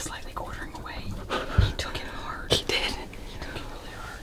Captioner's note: none